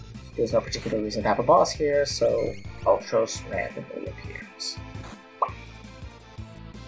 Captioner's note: mouth popping noise